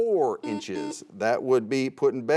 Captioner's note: buzzer sounds